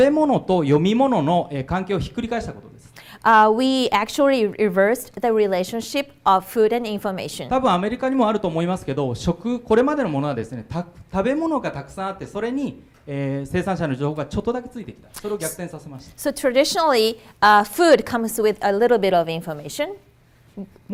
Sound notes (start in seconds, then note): 7.7 speaking foreign language